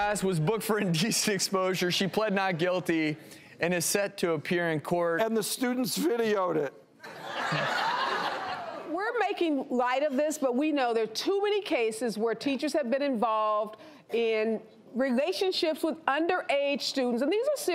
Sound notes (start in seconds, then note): 7.0 crowd laughing